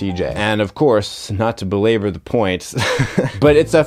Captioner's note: laughs